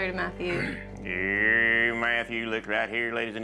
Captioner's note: speaks fast as auctioneer